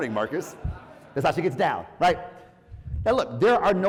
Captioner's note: laugh